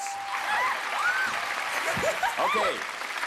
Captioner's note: cheers and applause